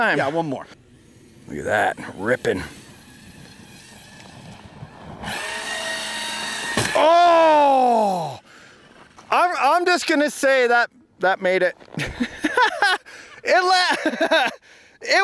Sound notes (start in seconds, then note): 2.0 RC truck wheels spinning; 12.1 laughing